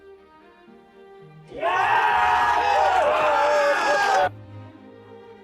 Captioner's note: cheers